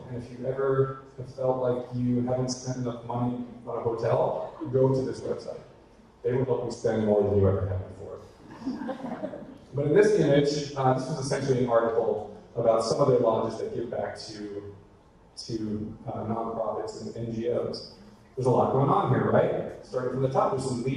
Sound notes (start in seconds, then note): 8.5 audience laughter